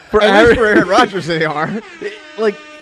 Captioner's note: laughs